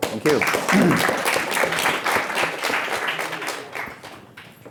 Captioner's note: audience applauds